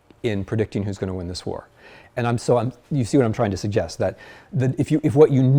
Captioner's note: none